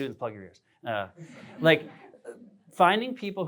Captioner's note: laughter